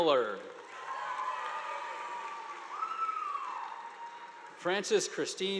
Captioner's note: audience applauding